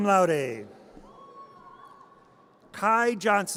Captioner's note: audience cheers